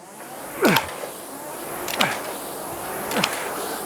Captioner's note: grunting